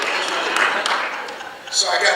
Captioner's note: audience laughing